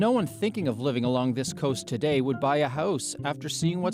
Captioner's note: speaking french